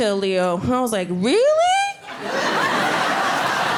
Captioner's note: audience laughing